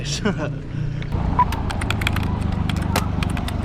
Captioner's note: laughter